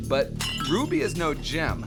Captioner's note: ceramics shattering